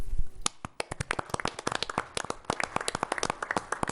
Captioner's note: applause